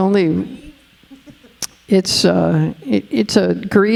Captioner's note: chuckling